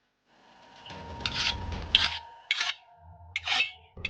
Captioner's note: panga clattering